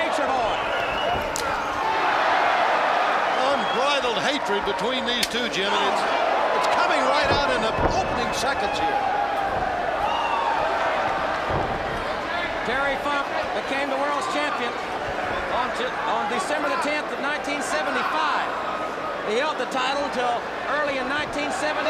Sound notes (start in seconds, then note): 3.7 crowd cheering; 9.2 crowd chatter